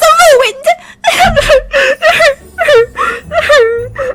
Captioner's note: sobbing